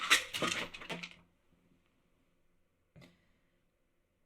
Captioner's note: pills rattling